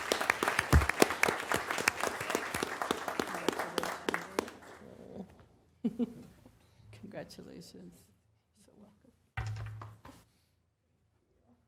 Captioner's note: applause